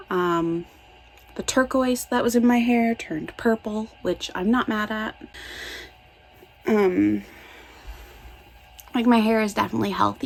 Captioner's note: inhales; exhales